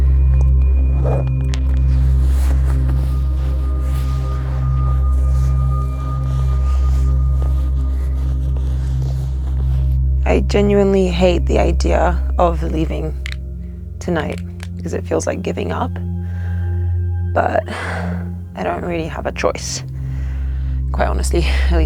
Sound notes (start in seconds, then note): 1.8 loud rustling